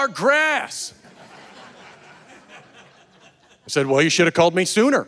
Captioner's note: audience laughing